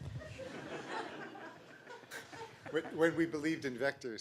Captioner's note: laughter